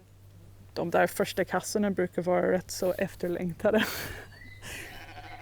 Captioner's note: laughs